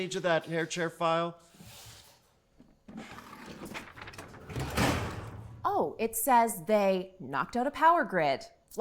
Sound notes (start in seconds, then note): 3.0 papers rustling